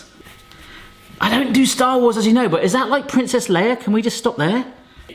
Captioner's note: none